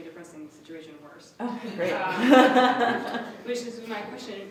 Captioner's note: laughter